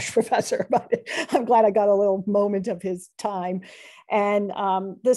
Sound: laughter

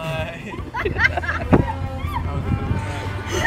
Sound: all laughing

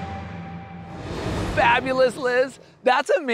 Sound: graphics whooshing

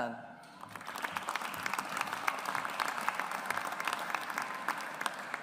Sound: audience applauds

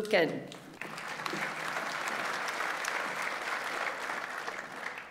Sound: audience applauds

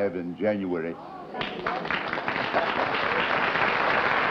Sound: applause

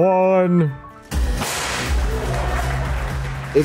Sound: confetti guns explodes; audience applauds

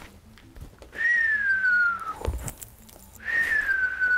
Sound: whistling

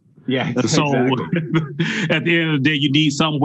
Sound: laughs

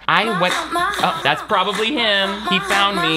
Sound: phone plays ringtone

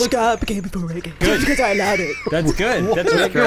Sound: laughing; high-pitched WTF laughter

